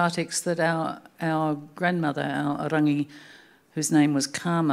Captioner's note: speaking Anmatyerr